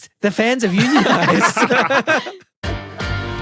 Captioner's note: group laughing